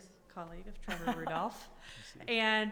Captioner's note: chuckling